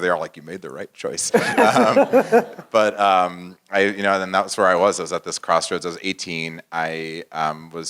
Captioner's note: laugh